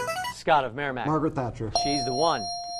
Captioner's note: ding